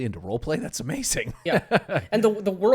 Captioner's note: laughs